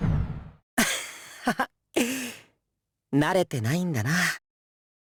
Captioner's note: chuckle